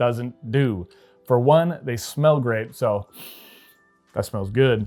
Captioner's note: sniffing